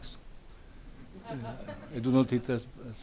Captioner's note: audience laughs